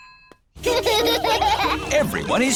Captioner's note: children laughing